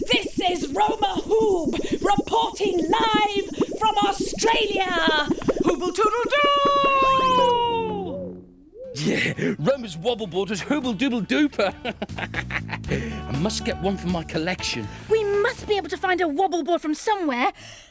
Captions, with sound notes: This is Roma Hoob, reporting live from Australia. Hooble toodle doo. Roma's wobble board is hooble dooble duper. (laughing) I must get one for my collection. We must be able to find a wobble board from somewhere.